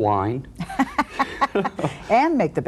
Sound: laughing

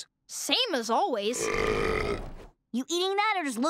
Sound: burping

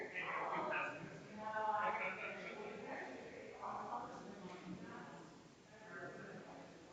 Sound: people chattering distantly continues

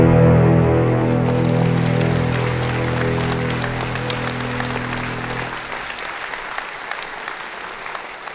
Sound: applause

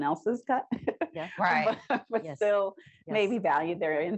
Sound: chuckles

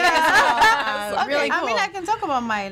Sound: all laughing

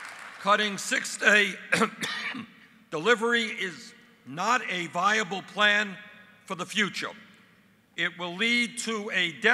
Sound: applause; coughs

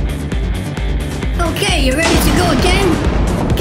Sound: heavy thunder

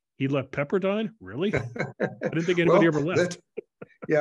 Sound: laugh

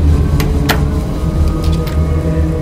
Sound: more Static

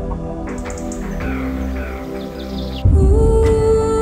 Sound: birds chirping

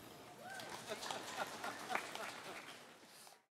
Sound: applause; laughter

